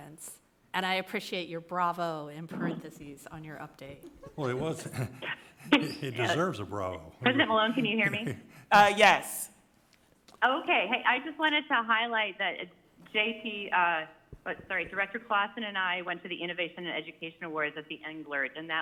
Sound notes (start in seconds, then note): 4.0 people giggling; 6.8 laughing